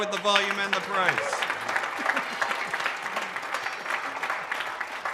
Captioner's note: audience applauding